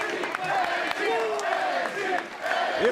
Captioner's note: fans chanting